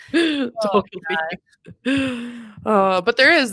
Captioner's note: speaking faintly